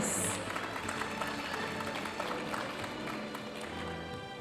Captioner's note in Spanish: aplausos de la audiencia